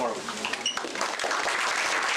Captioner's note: applause